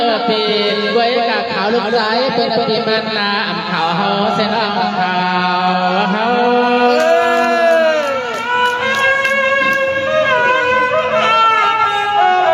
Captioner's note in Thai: ปรบมือ